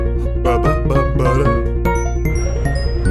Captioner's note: humming to the music